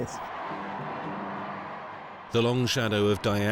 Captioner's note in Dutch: publiek juicht